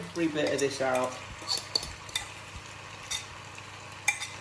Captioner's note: scraping